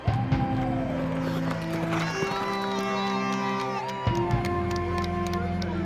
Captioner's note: crowd cheering